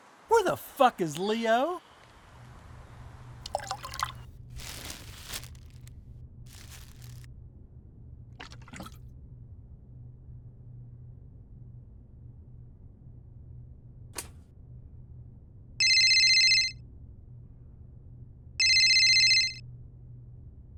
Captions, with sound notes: Where the fuck is Leo? [phone ringing]